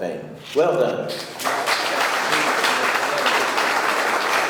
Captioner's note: audience clapping